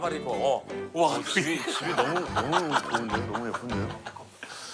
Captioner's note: laughs